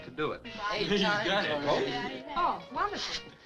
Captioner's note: all chattering